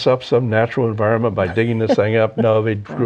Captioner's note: laughs